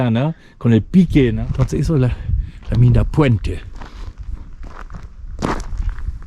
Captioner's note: steps